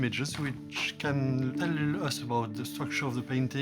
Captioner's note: none